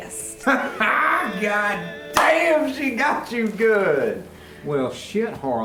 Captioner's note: laughter